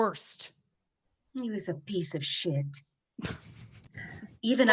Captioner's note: laughing